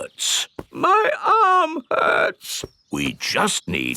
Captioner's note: in teddy's voice; in normal voice